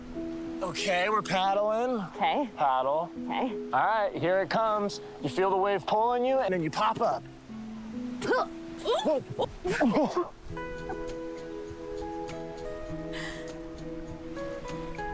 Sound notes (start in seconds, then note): 8.2 Isla exclaims, gasps; 8.8 chuckling